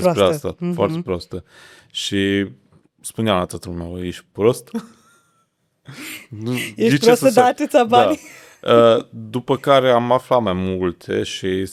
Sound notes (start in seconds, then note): 4.7 laughter